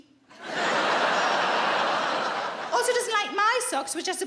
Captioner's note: audience laughs